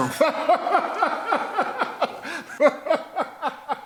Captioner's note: Faizan laughing